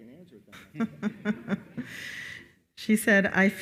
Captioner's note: chuckles